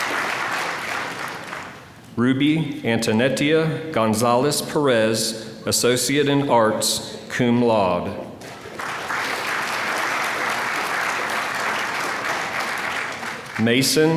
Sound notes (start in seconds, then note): 8.4 applause